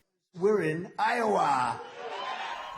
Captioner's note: cheering and applause